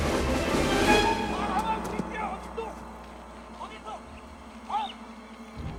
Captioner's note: yelling in Korean